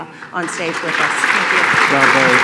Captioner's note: applause